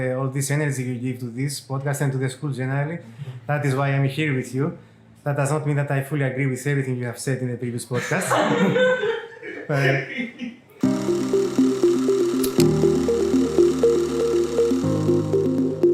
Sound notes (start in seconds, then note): 8.0 laugh